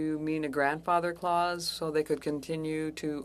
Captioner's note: speaking French